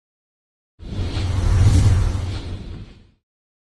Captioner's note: whoosh sound